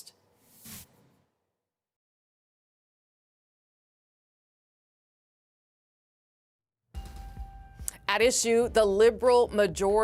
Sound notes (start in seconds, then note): none